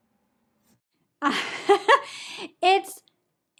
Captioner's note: laughs